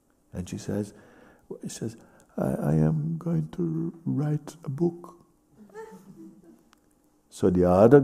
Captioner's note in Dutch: met zwakke stem